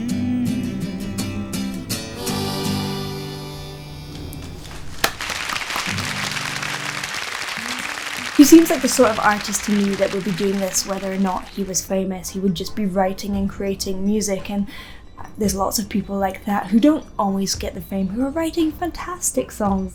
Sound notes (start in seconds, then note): 4.4 audience clapping; 4.6 clapping